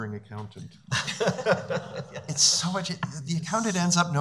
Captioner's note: laughing